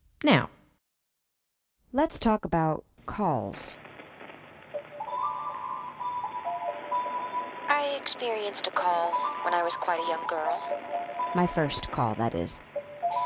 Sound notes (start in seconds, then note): 4.3 telephone static; 7.3 her voice, now coming from the phone